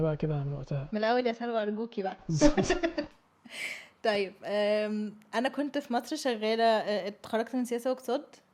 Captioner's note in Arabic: ضحك